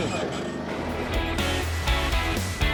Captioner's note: gears grinding